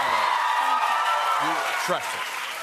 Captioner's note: cheers and applause